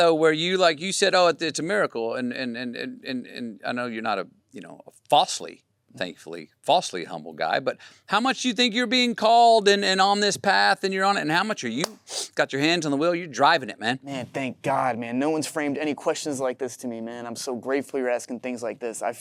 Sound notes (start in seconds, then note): 11.8 hands clapping